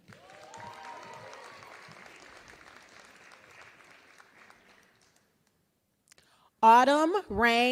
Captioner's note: applause